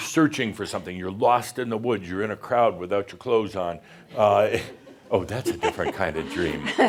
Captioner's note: some chuckles; she chuckles